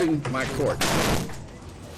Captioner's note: thuds